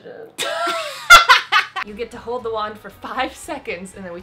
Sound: all laughing

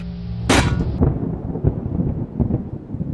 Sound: thunder

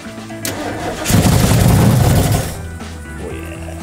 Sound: engine firing

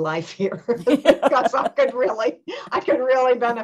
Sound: laughter

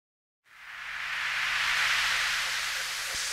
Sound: static

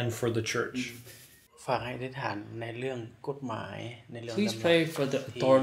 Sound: speaks in foreign language

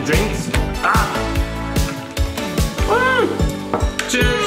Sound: grunts

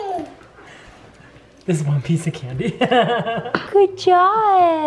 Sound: chuckles

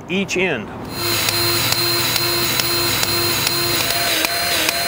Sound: grease gun revving

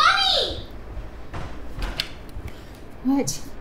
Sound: approaching footsteps

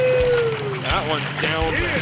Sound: whooping; fish splashing

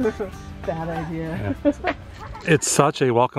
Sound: laughter

